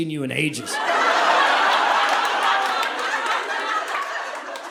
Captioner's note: audience laughing